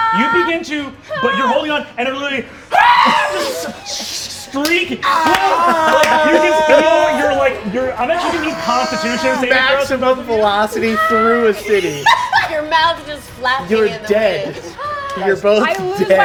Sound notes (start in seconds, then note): 5.0 screeches; 5.1 stage yelling